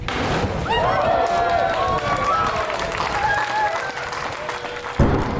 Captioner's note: applause